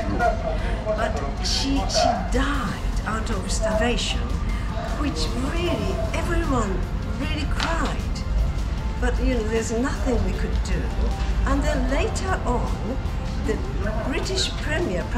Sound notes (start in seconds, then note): 7.9 laughs